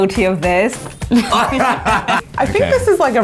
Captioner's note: laughing